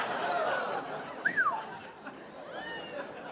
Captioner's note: whistles